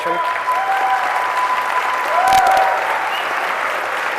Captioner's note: applause